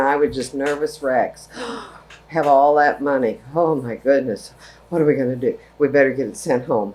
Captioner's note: gasp